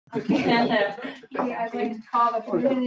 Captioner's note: group members chattering